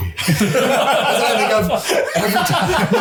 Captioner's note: laughs